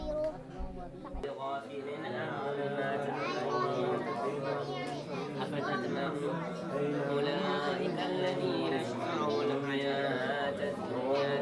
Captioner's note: students reciting